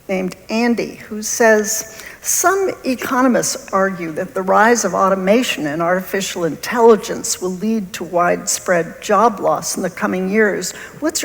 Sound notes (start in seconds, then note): none